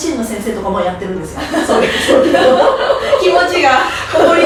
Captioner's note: haha